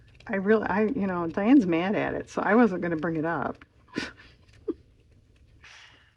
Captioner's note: laughs